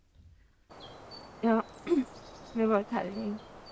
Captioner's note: birds chirping